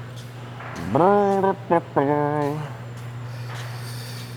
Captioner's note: humming